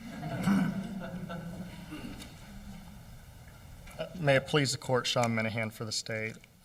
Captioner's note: laughter